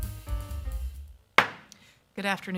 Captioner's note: gavel thudding